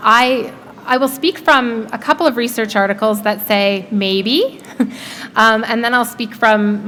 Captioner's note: chuckle